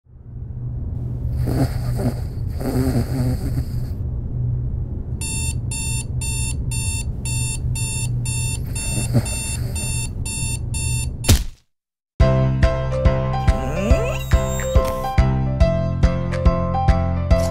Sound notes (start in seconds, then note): 1.3 snoring; 5.2 alarm